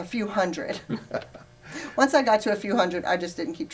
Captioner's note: laughs